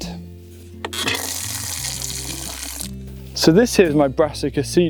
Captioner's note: water flows